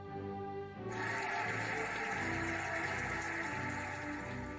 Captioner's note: cheering and applauding